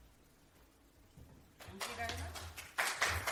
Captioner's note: applause